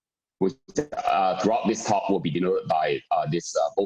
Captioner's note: murmur